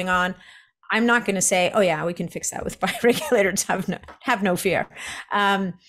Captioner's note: chuckles